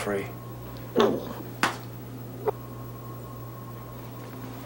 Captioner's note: grunting